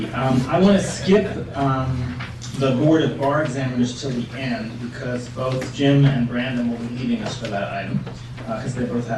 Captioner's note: laughter